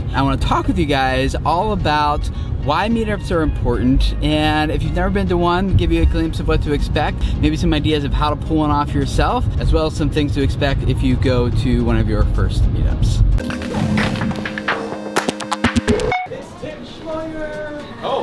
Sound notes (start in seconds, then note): 13.4 electric buzzing